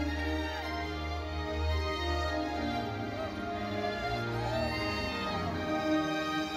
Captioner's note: classical music continues; students cheer